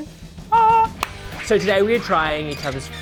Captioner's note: hands clap